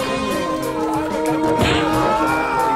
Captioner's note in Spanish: Pow